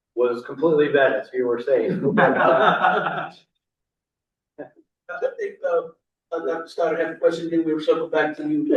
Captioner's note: laughter